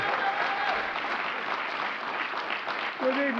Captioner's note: applause